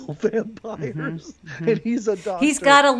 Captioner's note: laughs